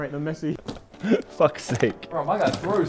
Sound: laughs

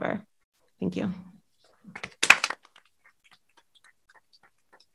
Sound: applause

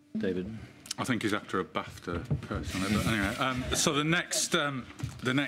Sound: laughter

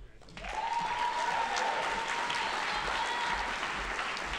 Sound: audience applauding

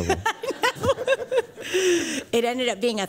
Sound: laughter

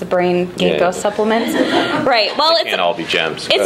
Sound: laughing

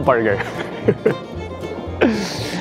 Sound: chuckles

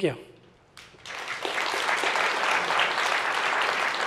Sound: applause

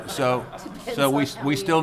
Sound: people laughing

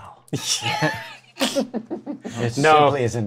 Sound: laughter

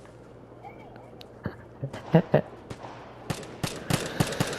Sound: troll laughing

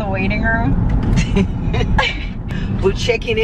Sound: laughing

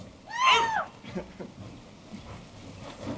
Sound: cheering

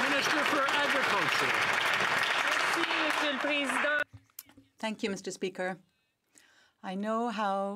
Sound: some Applause

